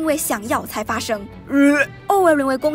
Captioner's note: vomit